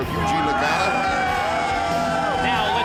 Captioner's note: crowd cheering